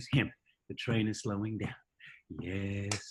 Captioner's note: tapping slowly